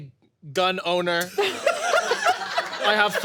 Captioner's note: laughter